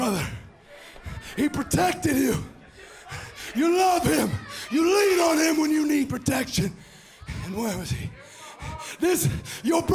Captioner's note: crowd chatter